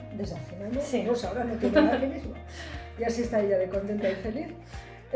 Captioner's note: laughs